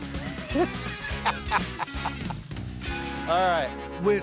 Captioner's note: laughter